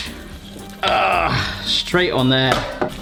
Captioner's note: groans